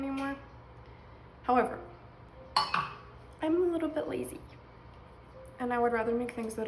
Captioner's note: measuring cup hitting counter